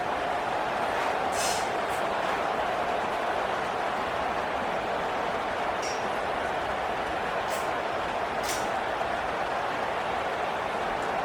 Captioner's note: crowd Noises